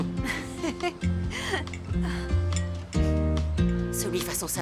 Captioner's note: chuckling